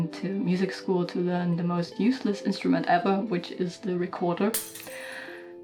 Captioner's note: glass breaking